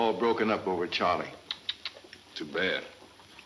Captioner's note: clicks tongue